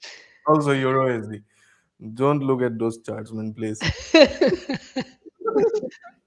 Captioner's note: laughter